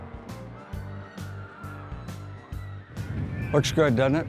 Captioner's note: children screaming